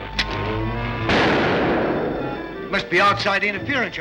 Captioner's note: explosion booms